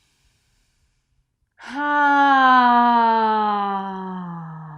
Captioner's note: sighs audibly